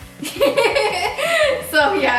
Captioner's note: laughs